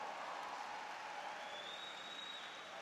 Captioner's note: applause